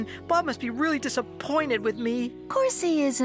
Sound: none

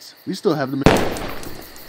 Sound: crack

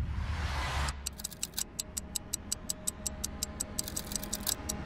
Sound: clock ticking

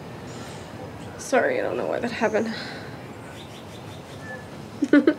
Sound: chuckling

